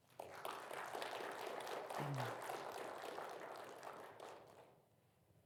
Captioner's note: audience applauding